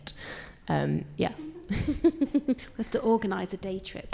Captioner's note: laughs